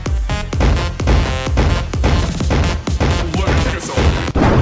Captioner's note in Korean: 쿵쾅쿵쾅